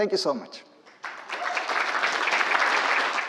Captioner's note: applause